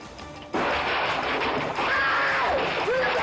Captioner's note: man screams